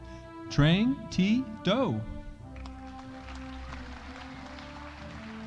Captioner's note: audience applauding